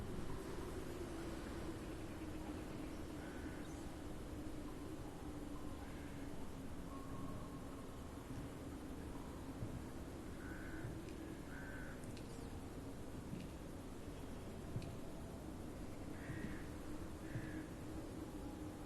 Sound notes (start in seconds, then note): 2.9 cold wind blows